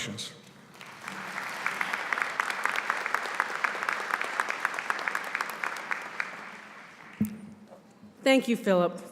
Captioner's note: applause